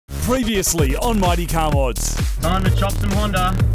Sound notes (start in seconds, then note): 0.6 voiceover; 3.3 engine revs